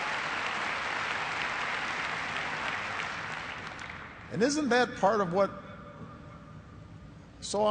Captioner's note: cheers and applause